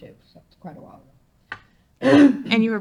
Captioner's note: coughs